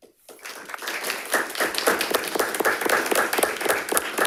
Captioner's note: all clapping